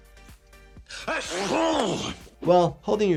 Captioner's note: Mr. Bean sneezes